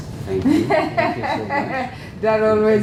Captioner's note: laugh